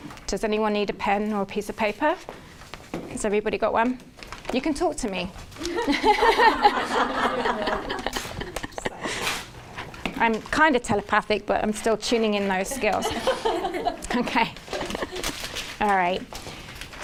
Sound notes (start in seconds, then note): 5.7 everyone laughing; 14.6 laughs